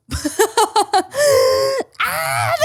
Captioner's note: laughs